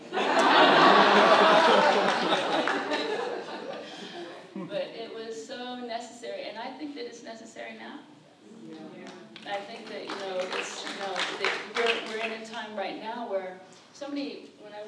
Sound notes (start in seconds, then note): 0.0 audience laughs; 9.7 applause